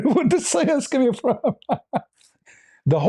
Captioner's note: ketawa